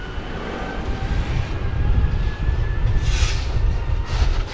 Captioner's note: wind whooshing